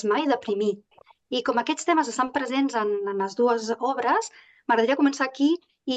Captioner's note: continues speaking in Catalan